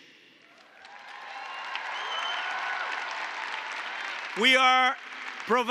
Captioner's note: applause